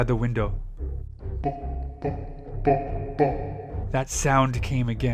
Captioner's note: deep laughter